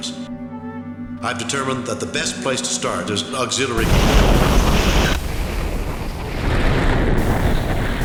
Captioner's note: explosion!!!